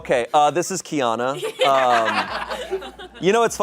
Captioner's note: audience laughing